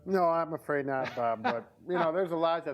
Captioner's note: laughs